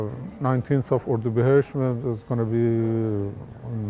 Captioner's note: foreign language